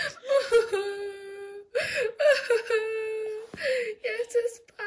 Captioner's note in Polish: udawany płacz